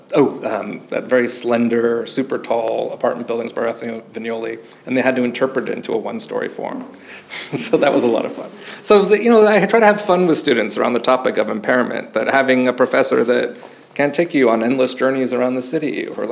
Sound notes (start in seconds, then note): 7.2 chuckles; 7.3 audience chuckles